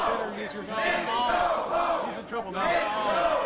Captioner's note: crowd chanting